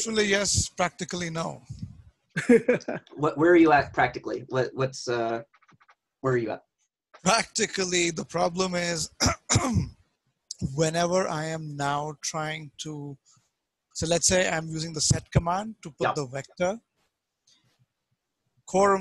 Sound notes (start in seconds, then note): 2.4 laughs; 9.0 clears throat